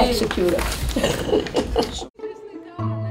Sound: laughing; playful music

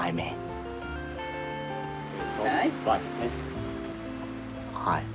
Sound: chat indistinctly

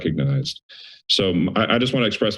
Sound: inhales

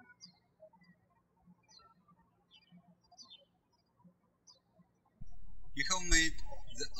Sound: birds chirping

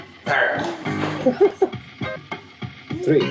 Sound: laughs

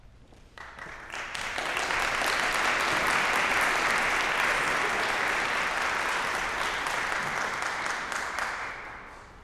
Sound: applause

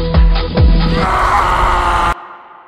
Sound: screams

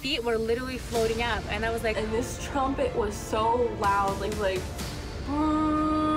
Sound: humming

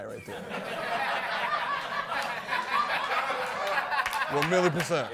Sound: laughter

